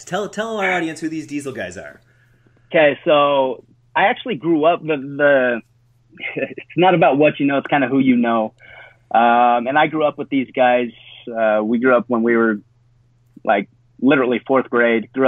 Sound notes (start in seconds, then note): 6.2 chuckles